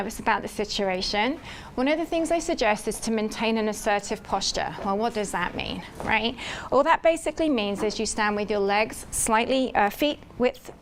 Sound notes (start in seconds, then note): none